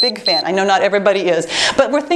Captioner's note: timer beeps